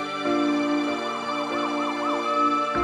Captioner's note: siren blaring